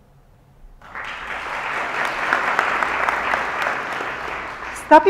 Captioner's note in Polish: oklaski